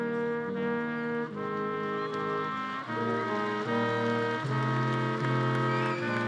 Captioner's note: attendees applauding and cheering